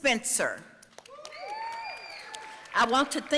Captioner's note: audience cheering